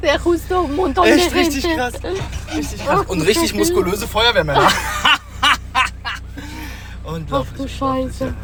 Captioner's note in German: gelächter